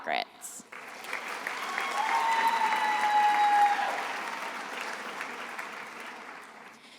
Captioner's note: attendees applauding and cheering